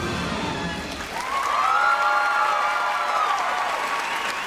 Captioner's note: crowd cheering loudly